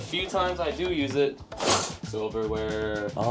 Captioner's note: metal clangs